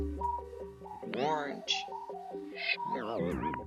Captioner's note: tape rewinds